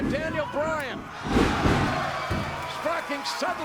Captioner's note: audience cheering